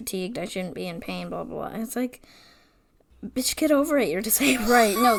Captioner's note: wheeze laughs